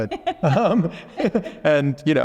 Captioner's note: laughing